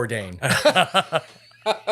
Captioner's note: laughing